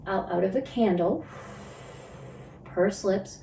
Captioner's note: exhales